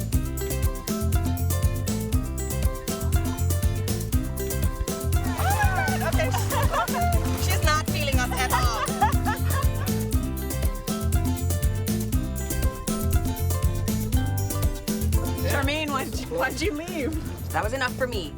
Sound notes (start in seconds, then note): 5.3 laughter; 10.2 cheerful music